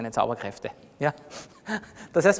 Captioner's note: laughs